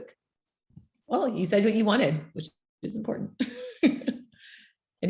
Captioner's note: chuckles